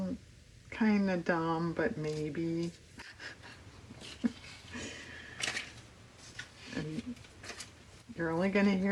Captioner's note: laughs